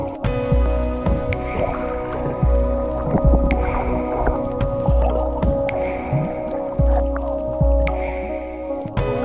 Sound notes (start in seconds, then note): 0.0 bright music; 0.0 water bubbling